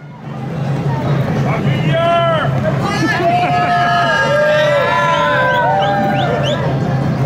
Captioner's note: ambient parade and city sounds and sirens in background